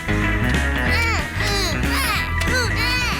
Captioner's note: both grunting